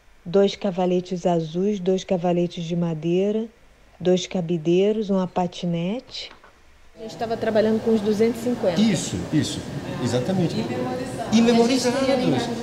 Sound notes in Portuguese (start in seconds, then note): 6.8 voz feminina